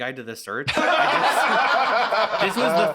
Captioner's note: all laughing